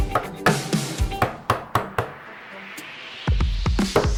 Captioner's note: taps wood